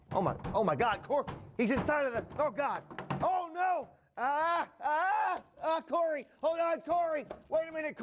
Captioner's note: cries out in despair